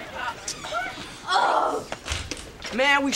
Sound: groaning

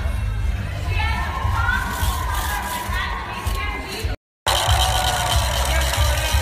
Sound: applause

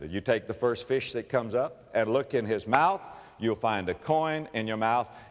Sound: clap

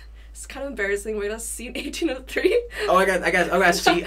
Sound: laughs

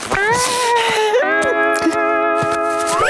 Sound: sobbing

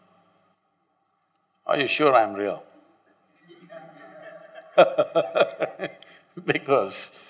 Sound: laughs

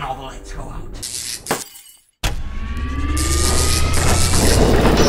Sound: electrical fizzling; glass shattering; laboratory machinery cranking

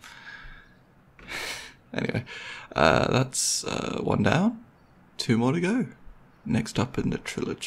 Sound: laughs

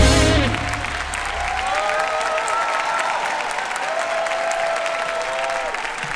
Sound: audience cheering and applauding

